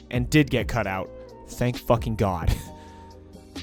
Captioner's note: laughs